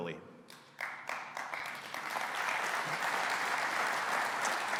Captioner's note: audience applauding